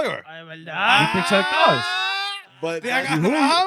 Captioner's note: speaking In Foreign Language